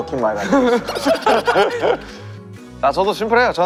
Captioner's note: hahaha